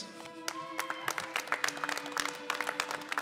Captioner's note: applause